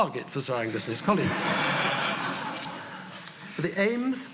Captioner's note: audience laughing